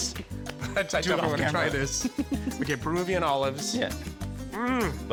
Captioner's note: laughing